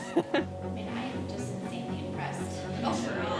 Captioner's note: laughter